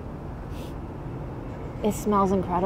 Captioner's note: sniffing